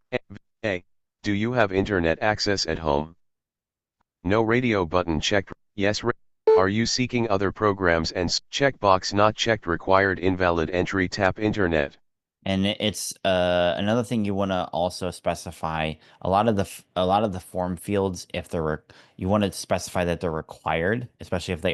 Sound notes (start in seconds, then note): 6.4 beep